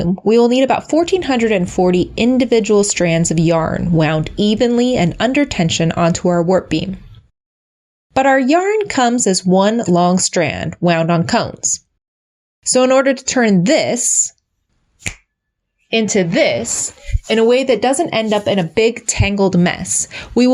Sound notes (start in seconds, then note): 15.0 snap